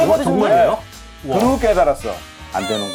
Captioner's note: surprised